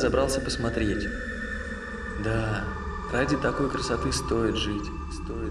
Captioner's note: echo